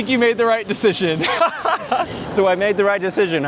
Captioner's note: laughter